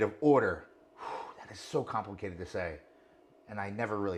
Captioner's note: sighs